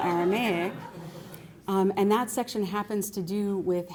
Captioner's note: laughter